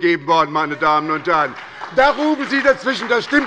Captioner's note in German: Lebhafter Beifall bei der SPD